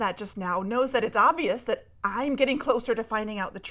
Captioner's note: none